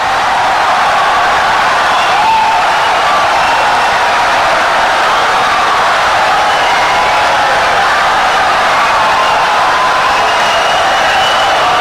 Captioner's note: wild applause and cheering for 17 seconds